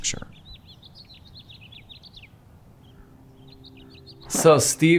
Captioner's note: birds chirping